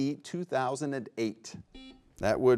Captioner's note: buzzer beeps